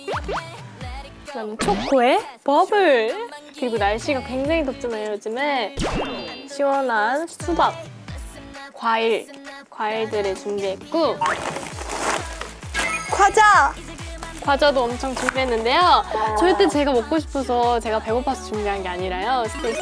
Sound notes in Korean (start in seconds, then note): 11.3 부스럭